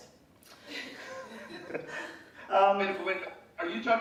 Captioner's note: laughing